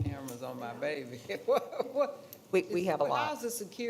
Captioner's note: laughing